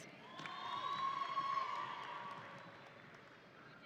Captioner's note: audience cheering